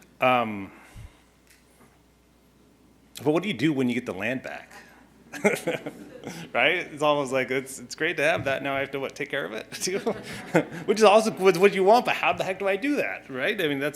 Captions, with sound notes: but what do you do when you get the land back? (chuckling) right, it's almost like it's great to have that now I have to what take care of it too, which you want that but how the heck do I do that?